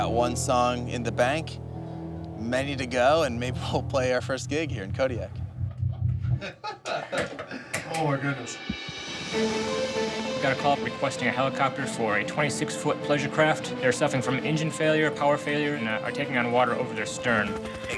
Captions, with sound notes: We got one song in the bank. Many to go and maybe we'll play our first gig here in Kodiak. (man laughing) - Oh my goodness. (dramatic music) - We got a call requesting a helicopter for a 26 foot pleasure craft. They're suffering from engine failure, power failure and are taking on water over their stern.